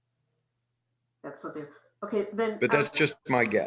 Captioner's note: audio distorts